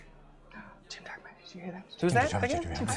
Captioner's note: gasp; murmuring as an excited crowd